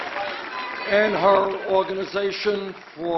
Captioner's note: applause